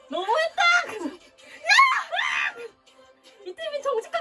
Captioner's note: shouting in soprano